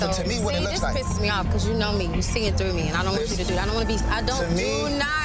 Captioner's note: overlapping chatter